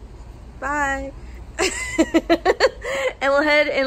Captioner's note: laughs